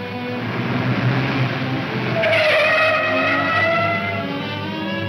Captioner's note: tires screeching